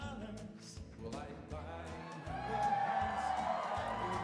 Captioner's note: audience cheers